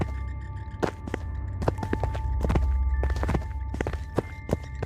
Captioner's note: footsteps fall